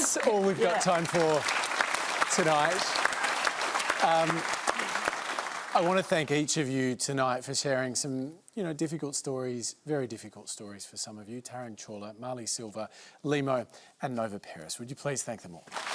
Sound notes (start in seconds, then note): 0.0 laughter and applause; 3.5 applause; 15.6 applause